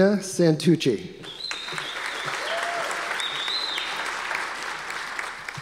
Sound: audience applause

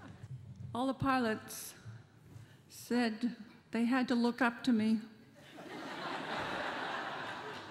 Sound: laughter

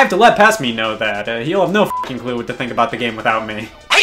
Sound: beep

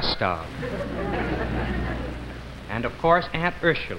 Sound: crowd laughs

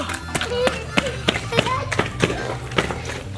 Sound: stomps

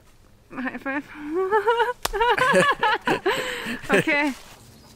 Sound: laughter

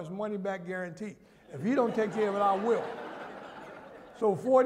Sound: laughter

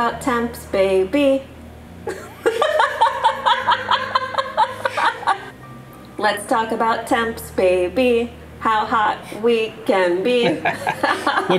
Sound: laughing

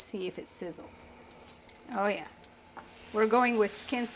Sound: chicken sizzles

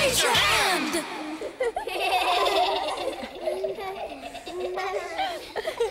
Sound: everyone laughs

